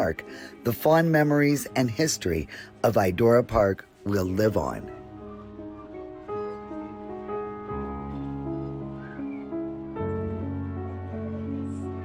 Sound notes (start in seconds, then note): 4.7 patrons chattering; 4.7 sentimental music continues